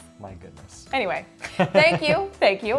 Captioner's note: laughs